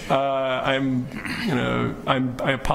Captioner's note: laughing